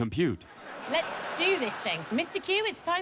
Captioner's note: laughter